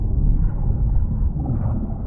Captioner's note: none